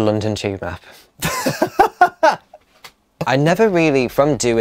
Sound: breaks out laughing

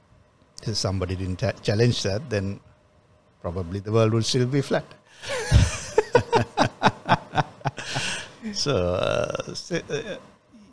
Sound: laughs

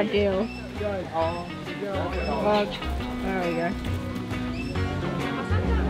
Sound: bird squawks; upbeat band music

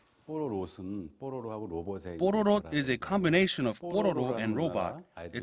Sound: Korean

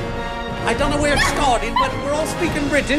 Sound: British accent

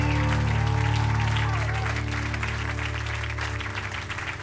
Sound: cheers and applause

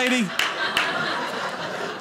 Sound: audience laughing

